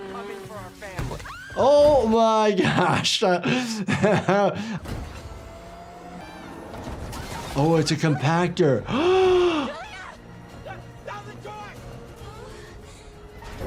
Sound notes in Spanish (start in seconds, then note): 10.3 jadea